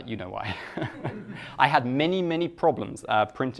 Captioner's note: laughing